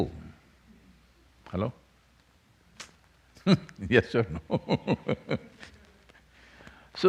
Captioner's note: laughs